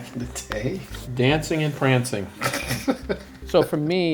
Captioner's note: laughs